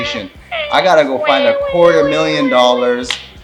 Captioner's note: crying like a baby